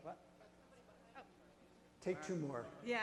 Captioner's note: audience murmurs